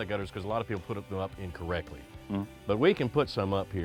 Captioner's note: none